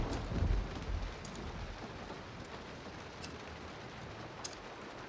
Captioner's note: scissors clipping